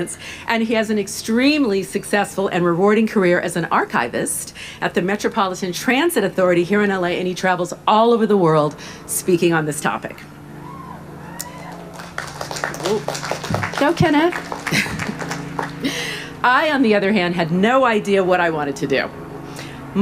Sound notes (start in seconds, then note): 10.6 crowd cheering